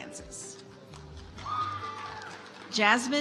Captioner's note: audience applauds